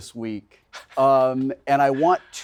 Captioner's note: Wilson laughing